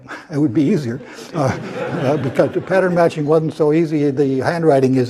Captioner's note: laugh